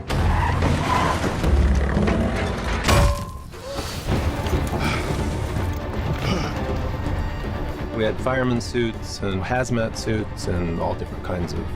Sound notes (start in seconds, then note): 0.5 crashing; 2.7 bang; 4.2 heavy winds; 4.6 heavy breathing